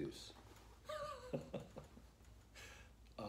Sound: laughter

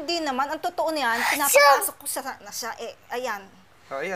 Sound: sneezes

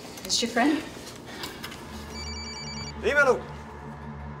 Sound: phone ringing

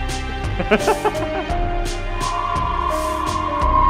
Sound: laughing

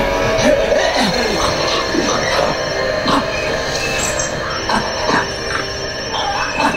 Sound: choking noises; heavy breathing

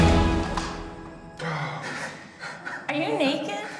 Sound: laughs

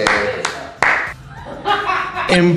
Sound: laughing for the result

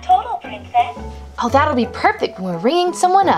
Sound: voiceover

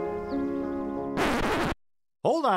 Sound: record scratches

